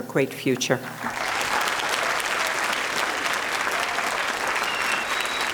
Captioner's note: audience applauding